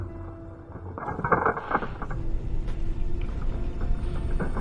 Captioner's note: cracking